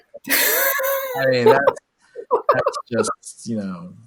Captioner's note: laughs